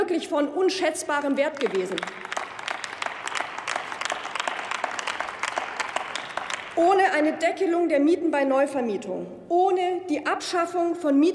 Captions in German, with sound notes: wirklich von unschätzbarem Wert gewesen. (Applaus) Ohne eine Deckelung der Mieten bei Neuvermietung, ohne die Abschaffung